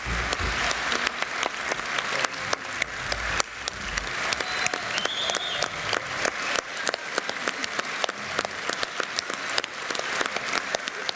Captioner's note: applause